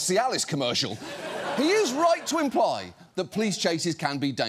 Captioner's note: studio audience laughs